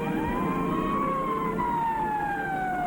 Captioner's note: siren